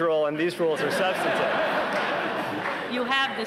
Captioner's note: laughter